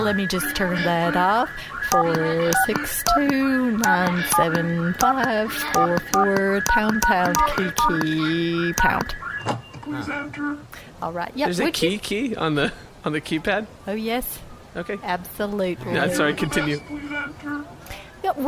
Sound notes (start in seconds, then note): 1.8 buttons beeping; 6.0 alarm stops, electronic voice says ‘please enter’